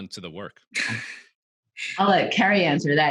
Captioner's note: chuckles